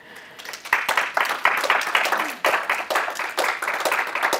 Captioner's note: applause